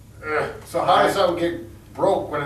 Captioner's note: grunting